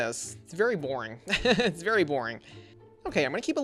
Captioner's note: laughs